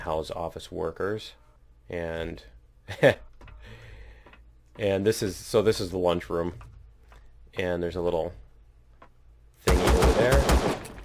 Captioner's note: laughs